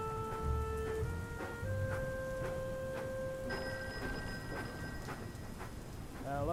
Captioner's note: telephone rings